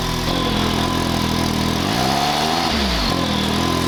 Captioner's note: engine revs